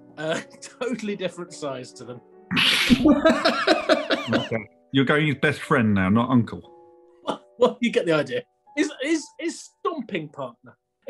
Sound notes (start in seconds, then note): 2.5 laughs; 2.8 laughter; 7.2 laughs